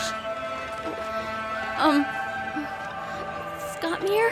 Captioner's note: worried